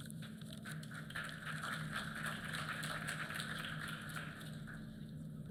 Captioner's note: applause